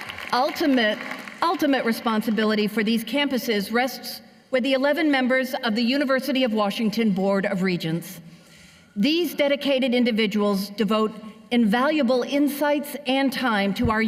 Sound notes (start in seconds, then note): 0.0 cheers and applause